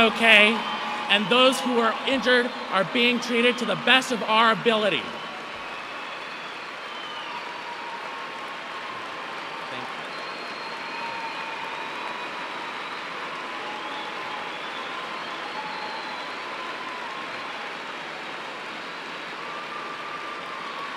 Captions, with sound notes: AND THOSE WHO ARE INJURED ARE BEING TREATED TO THE BEST OF OUR ABILITY. [ APPLAUSE ]